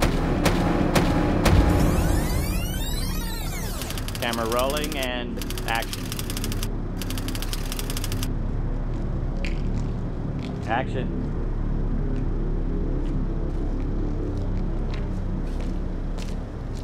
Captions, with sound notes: Camera rolling, and action. Action. (foreboding low-rumble continues)